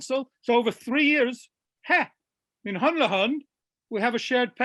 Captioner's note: speaking foreign language